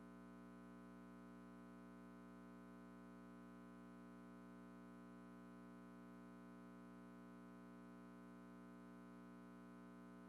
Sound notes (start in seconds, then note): none